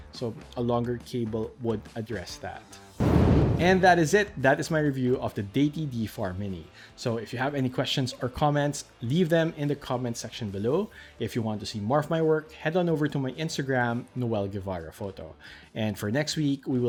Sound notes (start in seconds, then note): 3.0 air whooshing